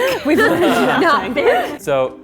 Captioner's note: laughing